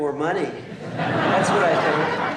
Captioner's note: laughter